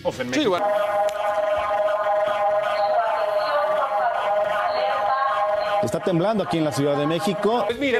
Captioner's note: sound of the Earthquake Early Warning Alarm